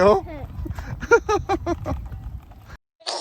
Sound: sounds awkward laughing; laughing

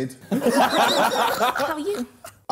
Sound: Sidemen laughing

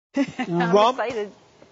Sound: laugh

